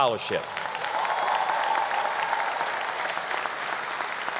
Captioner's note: audience applause